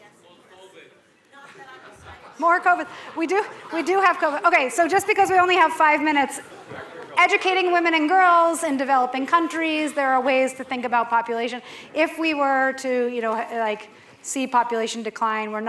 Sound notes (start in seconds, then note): 1.4 laughter